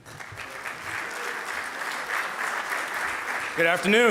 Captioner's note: audience applauding